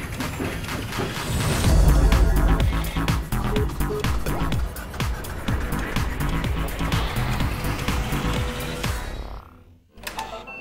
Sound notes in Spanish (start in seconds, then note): 3.8 pitido de botones; 5.6 zumbido